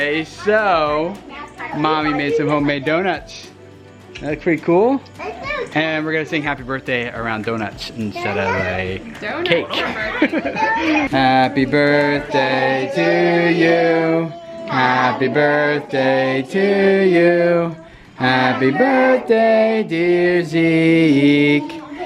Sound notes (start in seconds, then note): 9.4 laughs